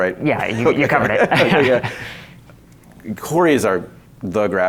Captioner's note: laughs